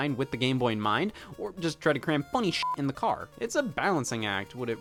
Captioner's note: beep